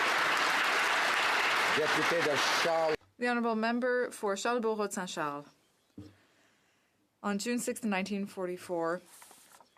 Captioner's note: applause